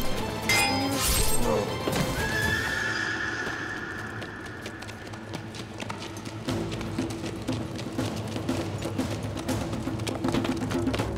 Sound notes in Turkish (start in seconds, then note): 1.8 At kişneme sesi; 4.1 Müzik - Gerilim